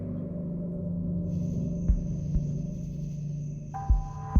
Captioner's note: crickets chirping